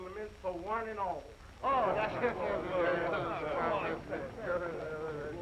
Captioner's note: all chattering